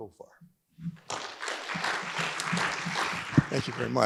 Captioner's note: audience applauds